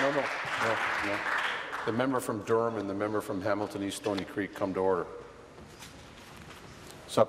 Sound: applause

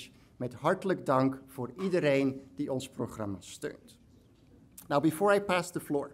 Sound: speaks in foreign language

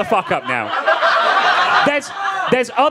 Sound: audience laughing

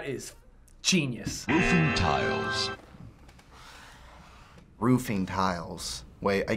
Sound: voice-over

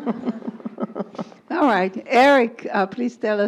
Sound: laugh

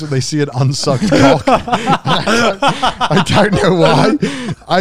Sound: all laugh

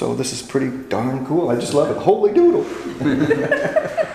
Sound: laughter

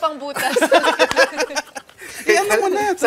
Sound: laughter

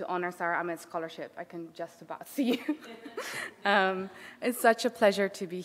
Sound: laughing

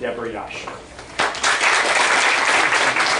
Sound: applause

